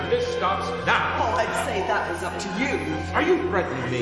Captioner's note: Wife, voiceover